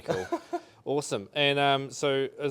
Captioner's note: chuckles